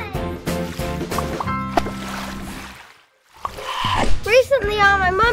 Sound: light splashing

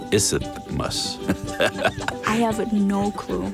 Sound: laughs

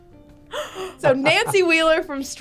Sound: gasps

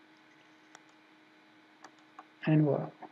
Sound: mouse clicking

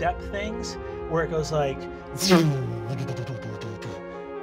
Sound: makes swooshing bass sound

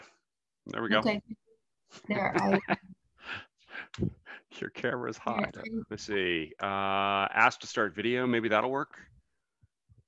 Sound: laughs

